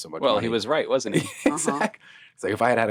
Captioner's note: laughing